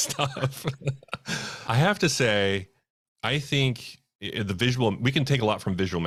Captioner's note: laughs